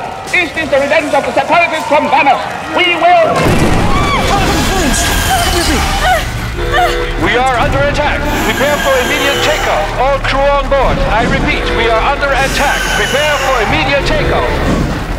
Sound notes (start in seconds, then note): 3.4 boom!